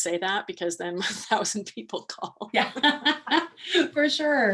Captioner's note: laughs